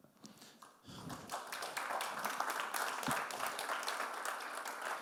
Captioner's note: audience clapping